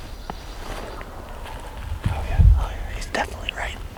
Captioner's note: turkeys gobble